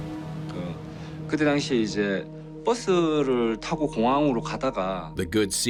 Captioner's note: speaking foreign language